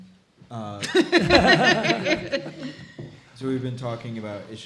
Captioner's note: all laughing